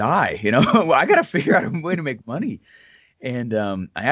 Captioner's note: laughs